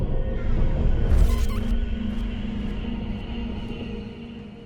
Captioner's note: door squeaks open; digital distortion